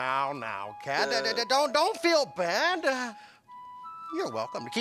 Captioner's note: stammering